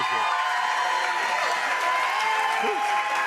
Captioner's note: cheers and applause